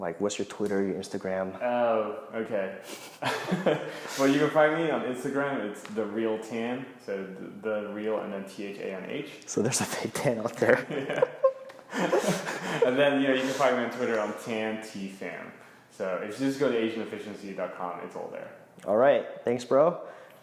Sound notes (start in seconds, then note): 2.8 laughs; 10.5 laughs